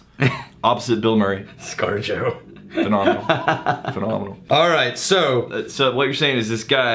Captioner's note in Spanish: riéndose